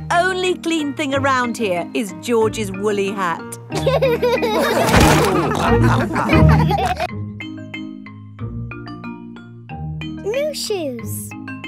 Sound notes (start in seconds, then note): 3.8 all laughing